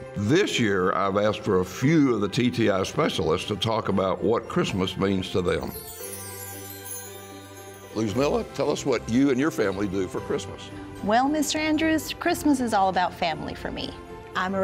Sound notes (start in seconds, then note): 5.7 transition chiming